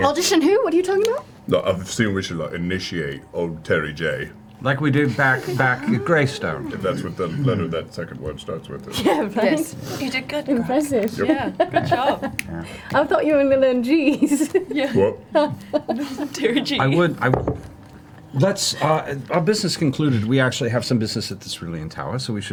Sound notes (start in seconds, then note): 8.8 laughs